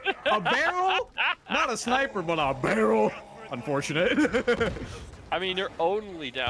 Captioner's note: laughter